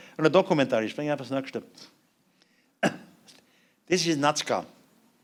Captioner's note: non-english speech